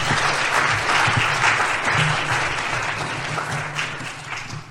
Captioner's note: applause